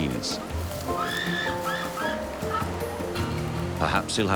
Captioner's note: birds squawking